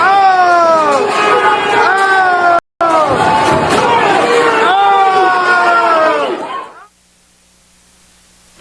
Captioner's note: shouting